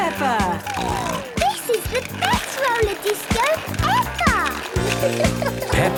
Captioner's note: snorting